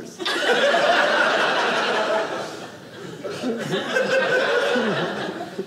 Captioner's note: audience laughing